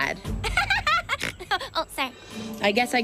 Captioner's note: laughs